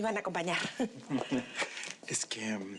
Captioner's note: Ríe